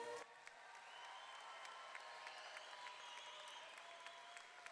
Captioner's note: crowd cheering and applauding